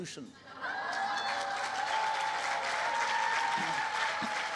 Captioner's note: cheering